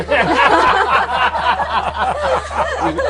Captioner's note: laughter